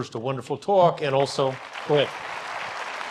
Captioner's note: audience applause